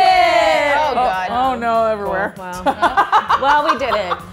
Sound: laughs

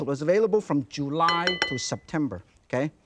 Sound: bowl clinking

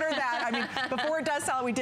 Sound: laughter

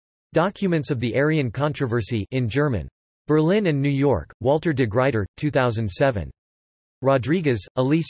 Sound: in German

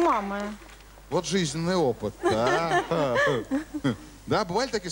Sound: laugh

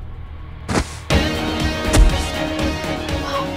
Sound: thud

